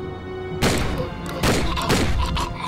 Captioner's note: gun shots